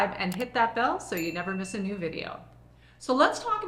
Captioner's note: bell chiming